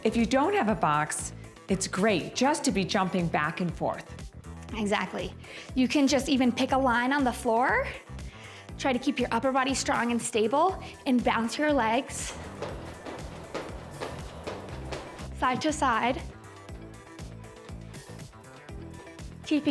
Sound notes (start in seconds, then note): 12.2 feet thumping; 16.7 upbeat music